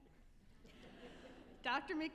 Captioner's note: all chuckling